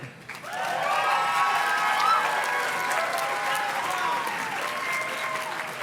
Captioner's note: audience cheers and claps